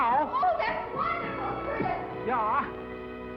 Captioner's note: foreign accent